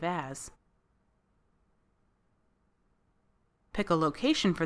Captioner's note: silence